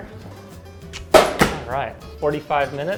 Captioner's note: over door clicks